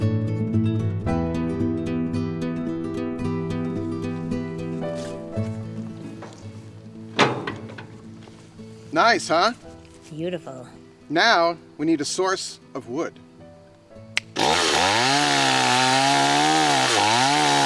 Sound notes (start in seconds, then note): 7.0 clunks; 14.1 snaps; 14.2 motor revving